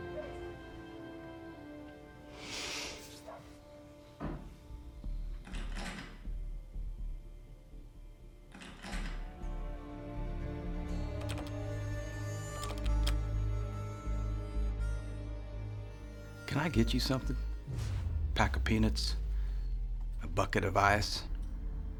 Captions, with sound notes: [DOG BARKING LOUDER OUTSIDE] [THUD OUTSIDE] [LOCK RATTLING SOUND] [LOUDER LOCK RATTLING] CASEY: CAN I GET YOU SOMETHING? A PACK OF PEANUTS? A BUCKET OF ICE?